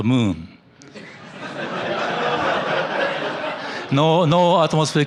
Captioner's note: laughter